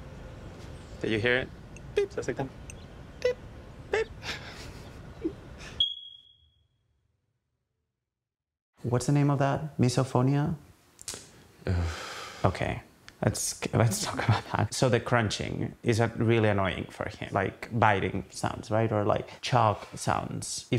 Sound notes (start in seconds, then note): 11.6 sighing